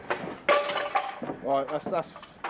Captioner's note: tile breaks